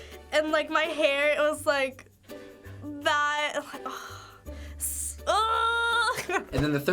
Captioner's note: sighs